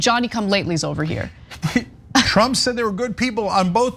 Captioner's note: laugh